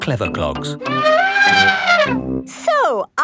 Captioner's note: trumpeting